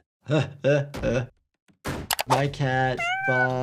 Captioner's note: door slams; laughs